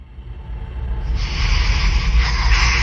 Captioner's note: wind whooshing